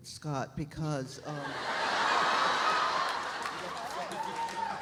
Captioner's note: audience laughs